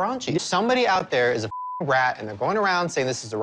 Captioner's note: beep